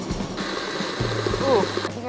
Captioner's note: whirring